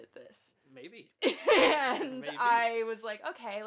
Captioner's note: laughs